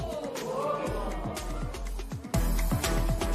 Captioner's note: spectators ohh